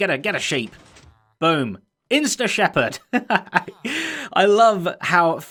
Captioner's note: chuckles